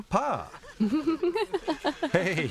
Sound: giggling

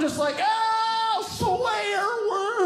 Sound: yelling

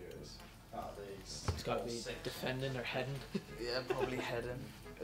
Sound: laughs

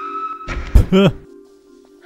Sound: laughs

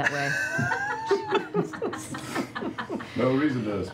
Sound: laughter

